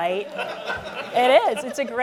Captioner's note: laughter